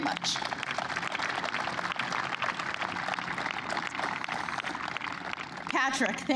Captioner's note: applause